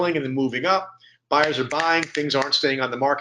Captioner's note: snapping fingers